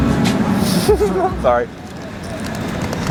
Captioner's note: laughs